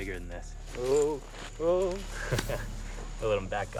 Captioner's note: laughs